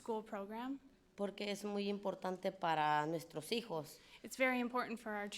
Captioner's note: speaking in foreign language